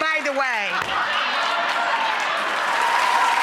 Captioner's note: audience laughs; audience applauds